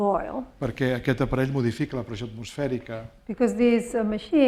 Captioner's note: speaking spanish